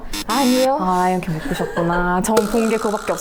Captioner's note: haha